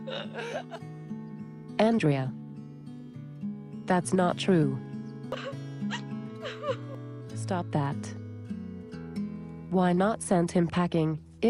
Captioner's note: cries; sniff